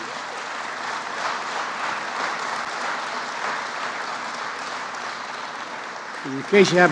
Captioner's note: applause